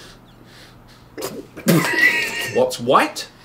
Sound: spitting water; laughing

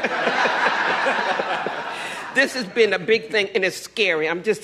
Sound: laughter

